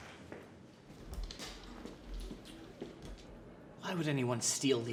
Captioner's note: door clicks